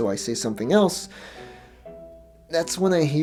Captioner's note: deep inhale